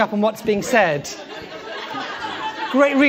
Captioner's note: laughter